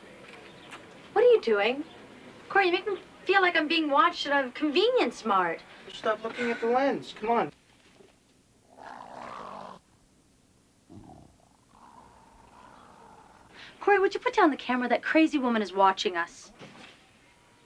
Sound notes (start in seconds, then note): 9.0 growling; 10.8 dog growling